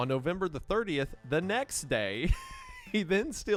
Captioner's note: laughs